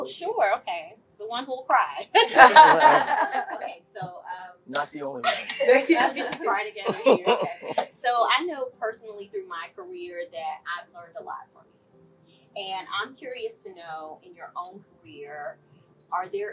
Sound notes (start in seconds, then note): 2.1 laugh; 5.2 laugh